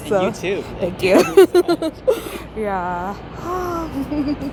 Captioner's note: giggling; sighing, then giggling